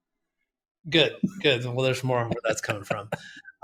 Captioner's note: laughs